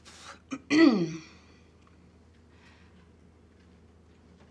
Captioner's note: Tania clears throat